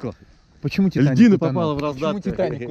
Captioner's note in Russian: смеются